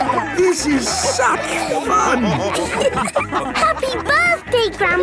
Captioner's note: dance party music; laughing